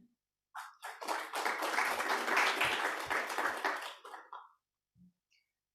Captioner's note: applause